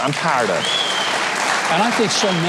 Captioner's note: applause